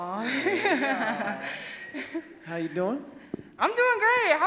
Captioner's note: laughs